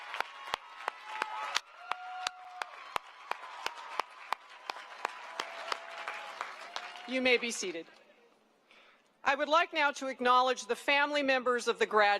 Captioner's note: cheering and applause